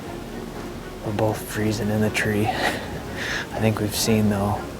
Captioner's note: laughs